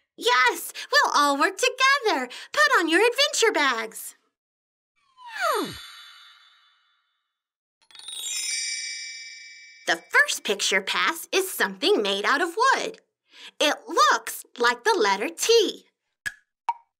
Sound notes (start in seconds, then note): 7.9 bells chime; 16.8 clock ticking